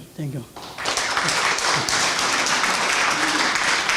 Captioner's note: applause